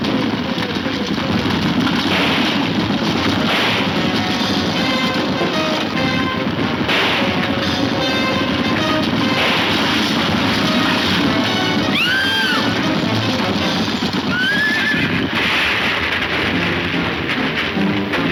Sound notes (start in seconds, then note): 11.8 lady screaming; 14.2 horse neighing